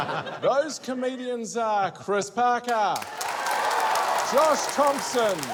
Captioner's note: cheering, applause